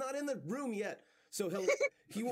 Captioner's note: laughs